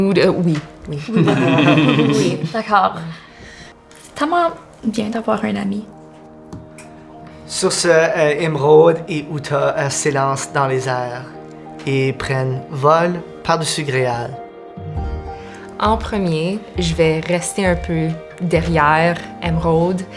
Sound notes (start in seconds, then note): 1.1 laughter